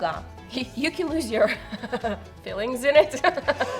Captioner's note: both laugh; laughs